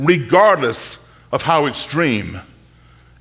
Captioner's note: none